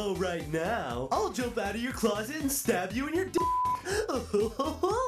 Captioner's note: beep; laughs